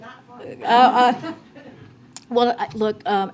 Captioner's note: laughter